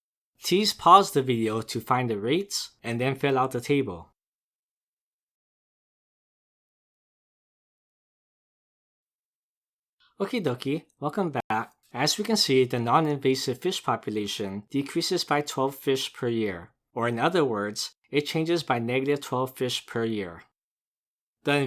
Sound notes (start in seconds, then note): 5.5 pause